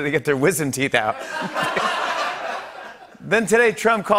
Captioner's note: laughter